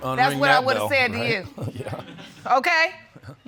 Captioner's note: chuckles